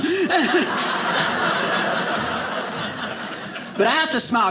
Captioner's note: audience laughing